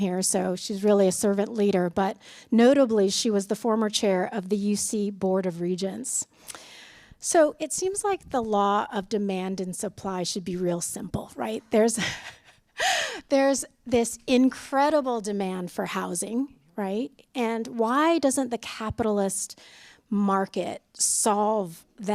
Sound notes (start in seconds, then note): 11.9 laughter